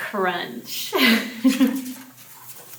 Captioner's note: giggles